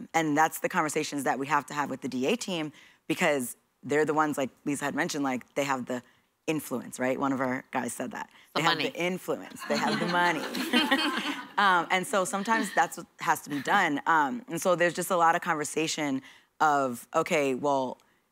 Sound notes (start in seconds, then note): 9.6 laughter